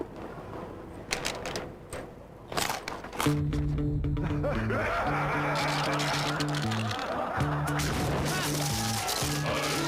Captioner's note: crunch; energetic music